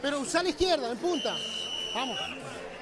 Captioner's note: whistle blows